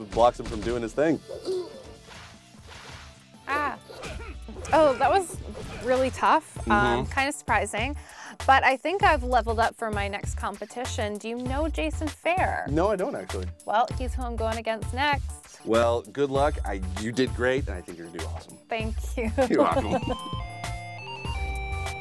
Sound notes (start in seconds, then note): 19.4 laughs